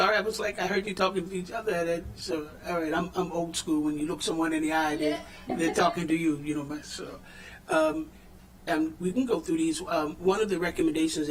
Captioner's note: laughter